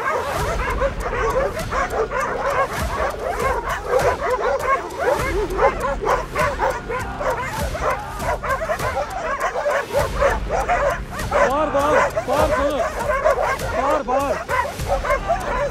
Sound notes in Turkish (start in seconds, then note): 8.4 Havlama sesleri ve tansiyon müziği sesi